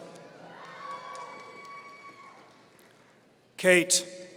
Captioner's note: audience cheering